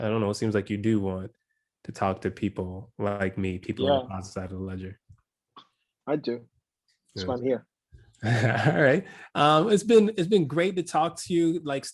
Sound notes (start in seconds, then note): 8.3 laugh